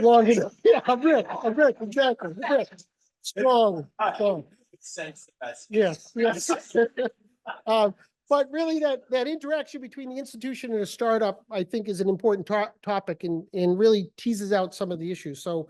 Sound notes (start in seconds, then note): 6.2 laughs